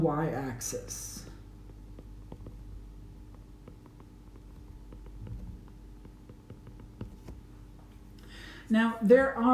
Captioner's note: writing